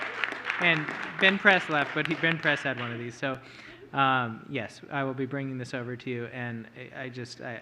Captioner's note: applause